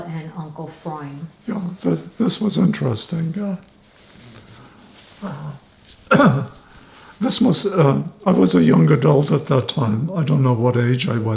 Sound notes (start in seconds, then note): 3.7 wiping nose; 6.0 clears throat